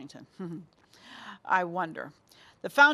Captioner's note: chuckles